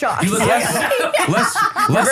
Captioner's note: everyone laughs